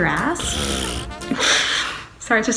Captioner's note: laughs